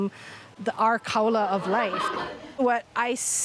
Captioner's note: students laughing